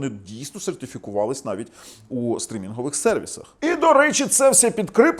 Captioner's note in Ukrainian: сопіння